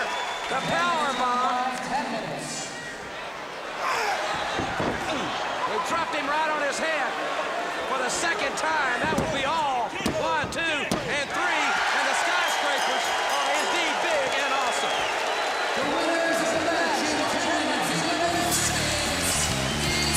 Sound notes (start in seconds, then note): 12.0 crowd cheering; 13.0 bell ringing